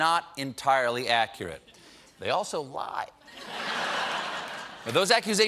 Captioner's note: laughter